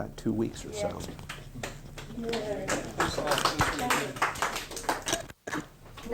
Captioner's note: applause